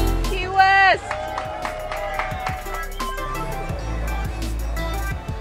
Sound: people cheering

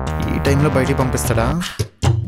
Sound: none

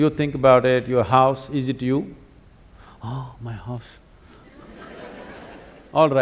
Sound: laughter

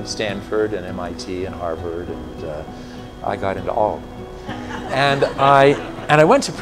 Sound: laughter

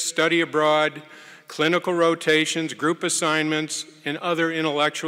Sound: none

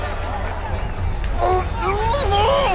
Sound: grunting

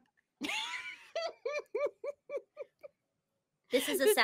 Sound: laughs

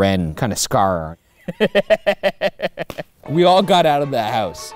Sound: laughs

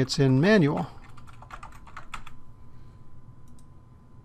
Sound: typing

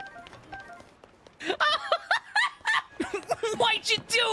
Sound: laughter

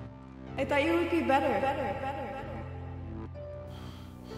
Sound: echoes

